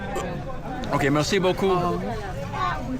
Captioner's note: speaking in foreign language